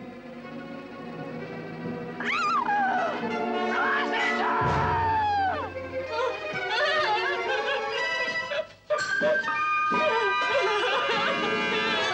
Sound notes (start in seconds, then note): 0.1 suspenseful orchestral music; 2.3 woman screaming; 6.6 sobbing